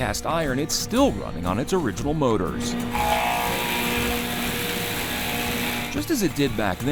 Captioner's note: surfacer buzzing